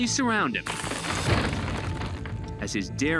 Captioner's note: crashing